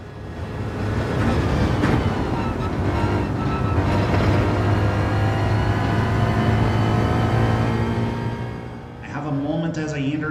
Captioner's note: engines revving, cars noises